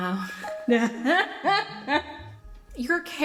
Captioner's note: laughs